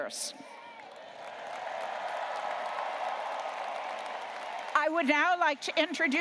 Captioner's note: audience cheering and applauding